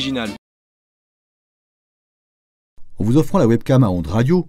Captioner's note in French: aucun son